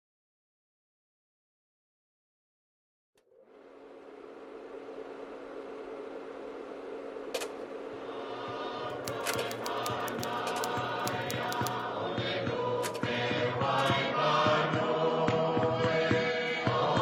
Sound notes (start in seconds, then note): 7.4 projector clicks, whirrs; 10.8 typewriter keys clack